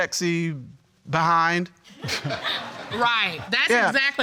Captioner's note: audience laughing